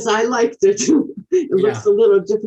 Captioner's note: chuckles